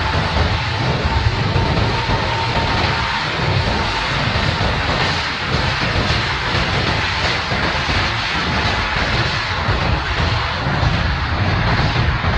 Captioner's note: aircraft taking off noise